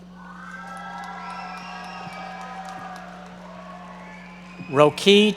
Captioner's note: audience members cheering and applauding